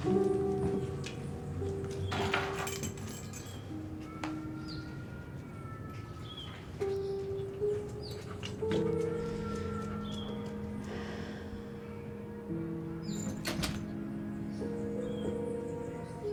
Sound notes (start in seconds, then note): 2.0 keys jangling; 7.5 soft piano music; 10.8 sighing; 13.1 door closing